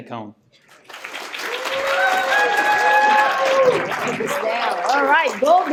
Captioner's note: applause